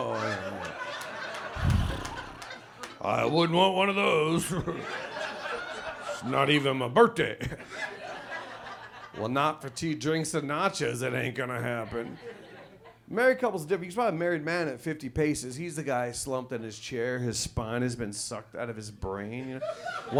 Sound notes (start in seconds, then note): 0.0 audience laughs; 5.6 chuckles